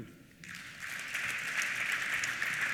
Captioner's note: applause